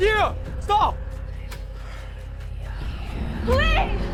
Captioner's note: Whispering voices within Keo’s head accompanied with suspenseful music